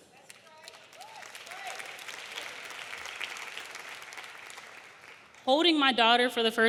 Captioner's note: audience applauding; audience cheering